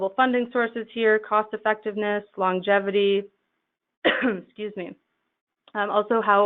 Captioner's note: coughs